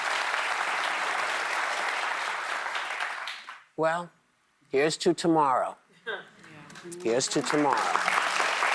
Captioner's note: applause